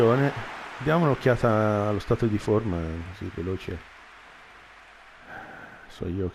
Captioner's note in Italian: Applauso